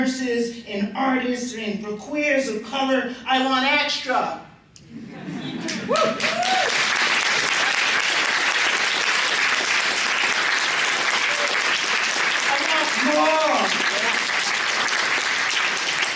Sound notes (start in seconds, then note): 4.9 laughter; 5.4 cheering, applause